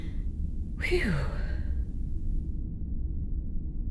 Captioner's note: whew!